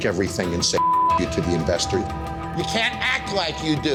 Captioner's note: beep